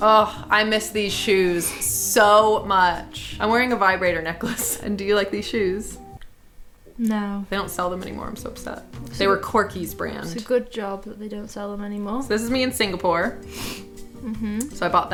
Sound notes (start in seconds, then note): 13.4 sniffling